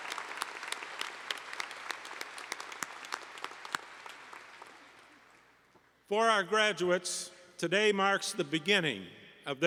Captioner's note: applause